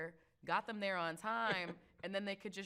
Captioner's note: chuckles